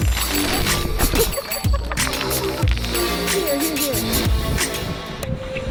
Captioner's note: laughing